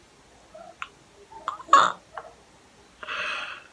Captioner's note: confused sounds